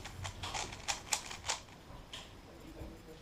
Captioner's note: cube noises